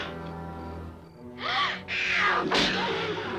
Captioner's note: mountain lion snarls; gasps; mountain lion screams; Gitano bellowing mountain lion screaming